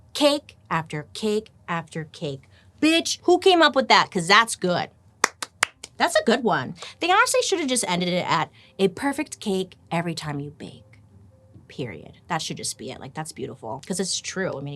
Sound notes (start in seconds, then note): 5.2 clapping